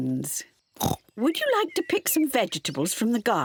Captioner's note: oinks